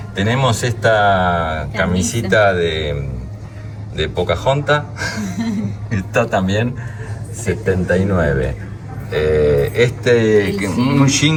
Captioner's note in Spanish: risas